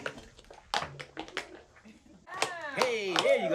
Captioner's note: tap-dancing